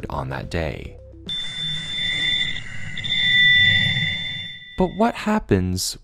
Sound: high-pitched noise

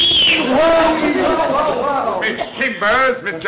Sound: whistling; Clem whooping and hollering

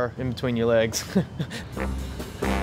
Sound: laughter

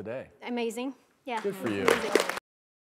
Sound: applause

